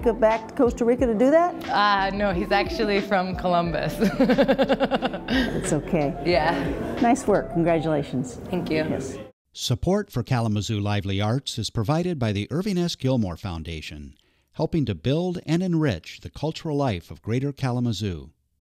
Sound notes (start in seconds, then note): 4.0 laughs